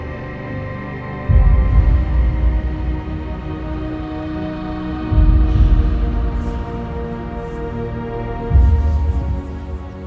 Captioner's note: mysterious, echoing whispers